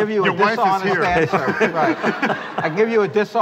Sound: laughter

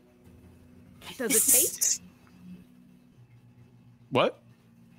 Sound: stammers

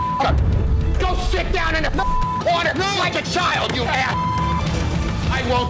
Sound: beep; beep

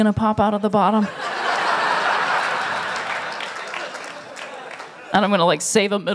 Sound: laughter

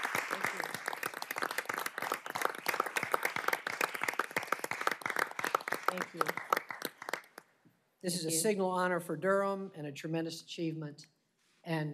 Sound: applause

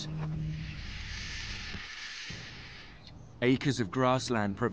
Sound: vultures screech

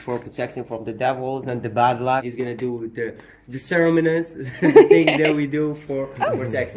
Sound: laughing

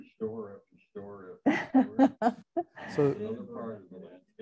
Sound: laughing

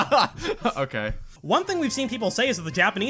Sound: laughs

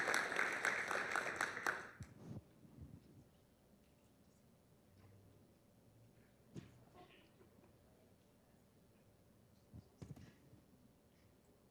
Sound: applause

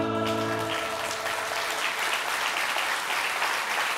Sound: applause

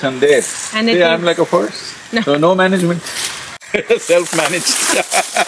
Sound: laughs

